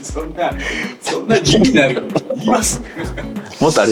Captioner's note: laughs